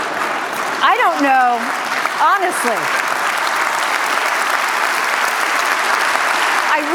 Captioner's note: laughter, applause